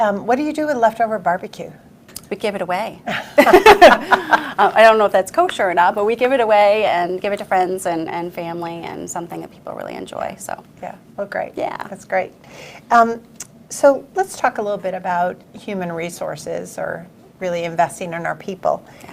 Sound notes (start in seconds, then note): 3.2 laughs loudly; 3.2 laughs